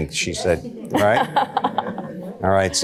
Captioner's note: laughter